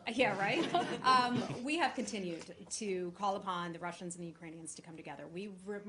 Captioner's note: laughter